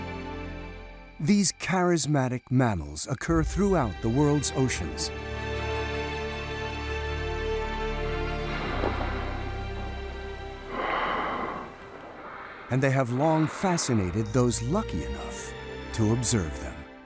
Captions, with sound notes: These charismatic mammals occur throughout the world's oceans (water spraying) and they have long fascinated those lucky enough to observe them.